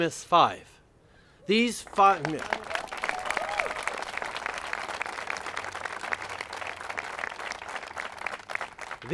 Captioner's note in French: Applaudissements